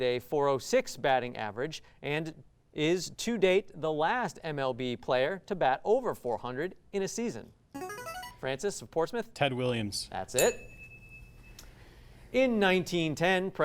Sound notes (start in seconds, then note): 7.7 ring-in sound; 10.4 ding sound